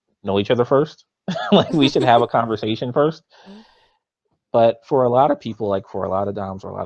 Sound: both laughs

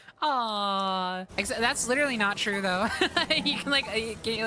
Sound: laughter

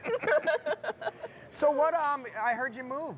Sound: laughing

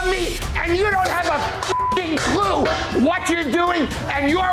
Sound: beeping

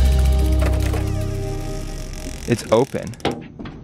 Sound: suspenseful mystery music; door creaks

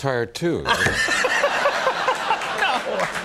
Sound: laughter

